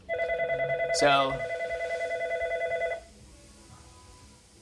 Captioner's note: phone ringing